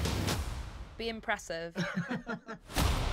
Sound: chuckles

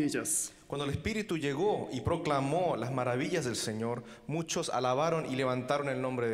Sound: translating in foreign language

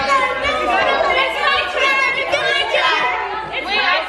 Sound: crowd laughing

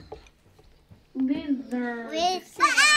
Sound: indistinct chatter

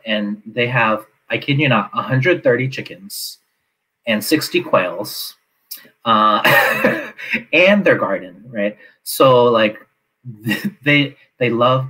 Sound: laughs

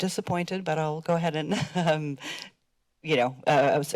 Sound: chuckles

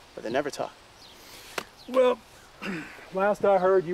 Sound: clears throat

